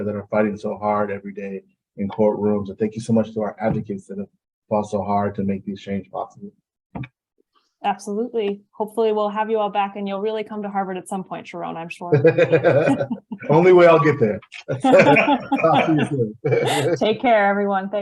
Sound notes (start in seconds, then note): 12.1 laughs happily